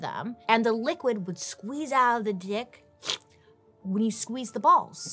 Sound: slurps

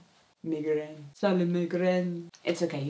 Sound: bad french accent

